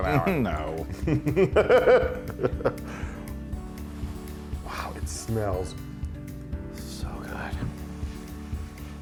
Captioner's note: laugh